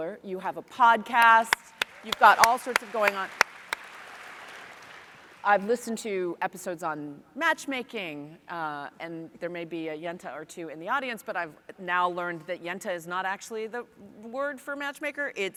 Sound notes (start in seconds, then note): 3.6 audience applauds